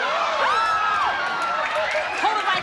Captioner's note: screams